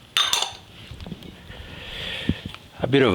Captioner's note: glass clinking